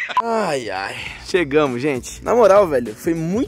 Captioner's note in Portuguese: Suspiro